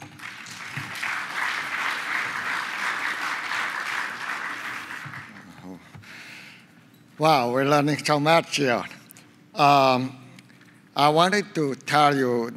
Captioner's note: applause